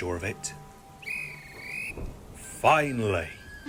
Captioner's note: guard blows whistle